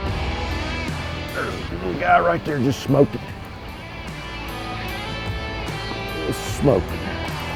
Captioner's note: upbeat rock music continues; exhales sharply